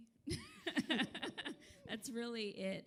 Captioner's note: laughter